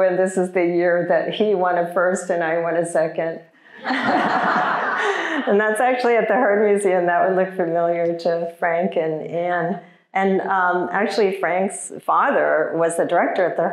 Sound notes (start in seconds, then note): 3.8 audience laughing